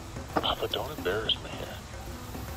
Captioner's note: whispering